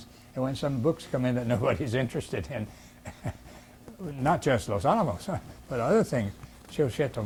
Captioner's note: laughs